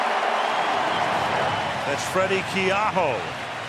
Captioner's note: cheering